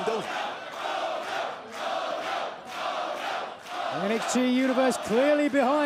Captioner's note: crowd cheering